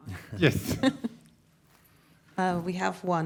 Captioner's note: participants laughing